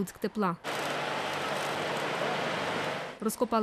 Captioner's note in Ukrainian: Звук зварювання труб